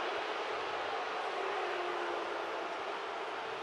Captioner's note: crowd booing